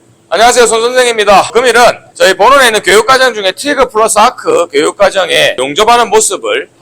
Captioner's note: voiceover